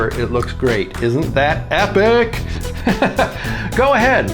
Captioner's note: laughs